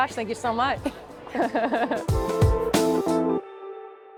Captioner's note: chuckling